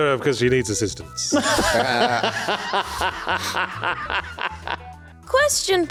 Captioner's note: laughing